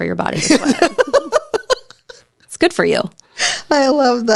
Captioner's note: laughing